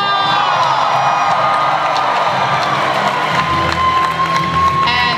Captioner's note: audience cheering and applause